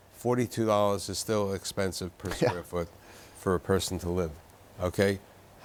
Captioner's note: chuckles